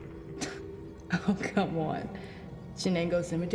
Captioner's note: scoffs